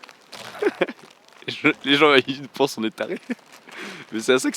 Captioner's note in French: rire; rire